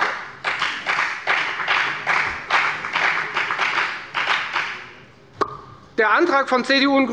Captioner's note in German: Beifall bei der FDP